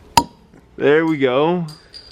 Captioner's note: bottle pops